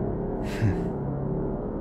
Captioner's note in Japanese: ため息